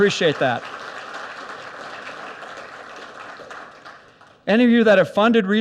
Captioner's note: audience applauds